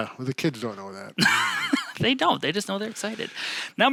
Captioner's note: laughing